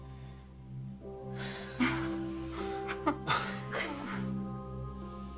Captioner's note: nervous laughing